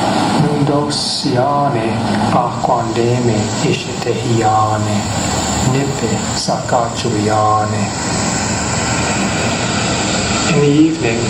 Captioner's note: male voice speaking in Indigenous Myaamia language